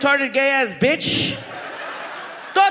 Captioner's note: audience laughs